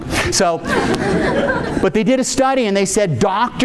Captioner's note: audience laughing